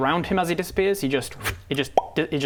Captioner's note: pop